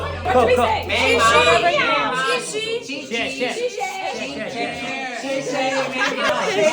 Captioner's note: Mandarin